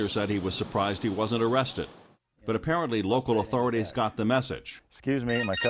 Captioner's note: phone ringing